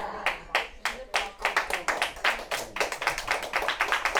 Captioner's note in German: Applaus